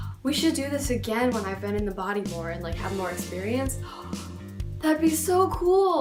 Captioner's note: gasp; gasp